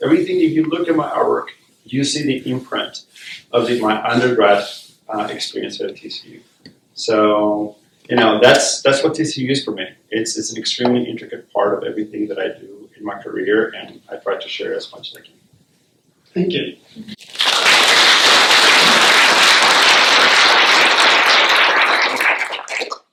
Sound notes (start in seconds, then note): 17.2 applause